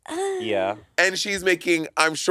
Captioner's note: Monét moaning